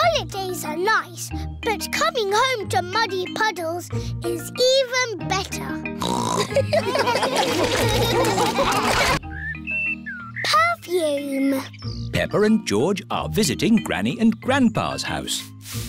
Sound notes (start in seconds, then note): 6.0 snorts; 6.4 laughter